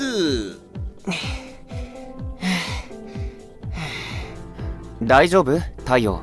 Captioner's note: panting